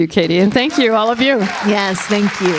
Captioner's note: audience applauding